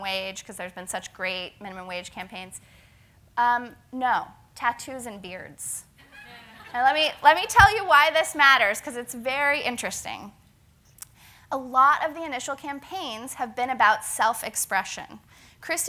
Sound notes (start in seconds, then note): 6.0 laugh